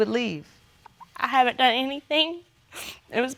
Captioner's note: sniffles